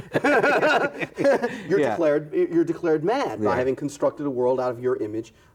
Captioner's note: both laughing